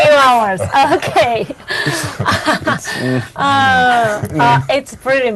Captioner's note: all laughing